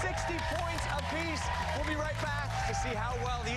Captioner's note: applause